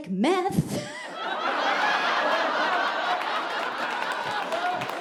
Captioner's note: audience laughing